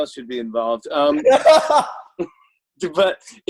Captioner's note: laughs